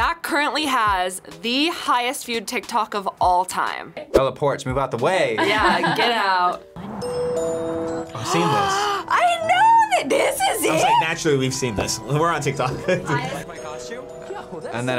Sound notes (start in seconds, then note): 5.4 laughs; 8.1 gasps; 12.7 laughs